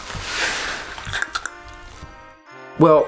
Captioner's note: clicks tongue